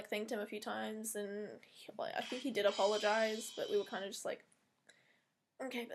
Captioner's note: phone goes off again, popular out of 10